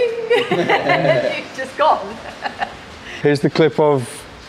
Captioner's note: laughing